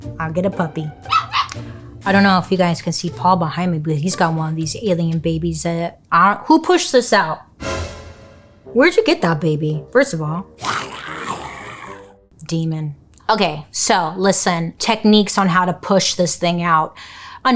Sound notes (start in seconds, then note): 1.0 puppy yaps; 7.5 dramatic music; 10.6 baby growling